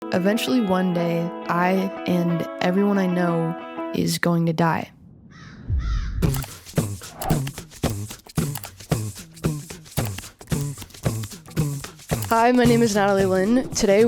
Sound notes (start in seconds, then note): 5.4 bird squawks; 5.4 ominous music